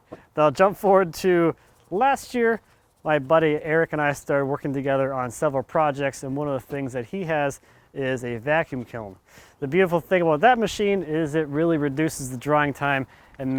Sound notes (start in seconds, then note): none